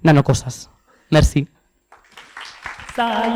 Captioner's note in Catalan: aplaudiments